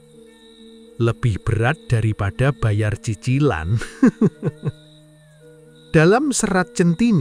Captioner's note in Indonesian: tertawa